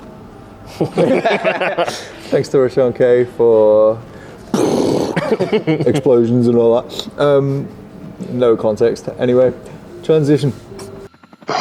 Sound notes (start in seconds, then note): 0.7 group laughs; 4.5 blows raspberry; 5.1 group laughs